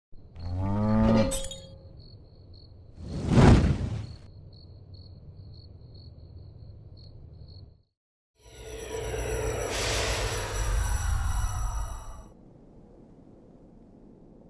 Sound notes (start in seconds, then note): 0.4 cow mooing; 1.3 glass tinkling; 1.7 crickets chirping; 3.0 flames whooshing; 8.8 logo whooshing